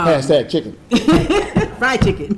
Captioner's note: laughing